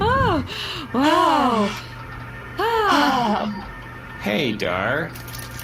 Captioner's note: both sigh